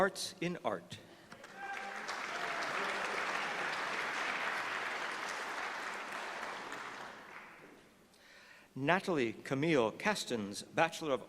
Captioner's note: applause